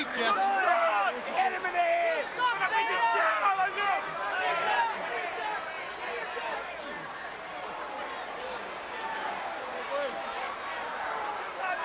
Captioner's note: crowd chatter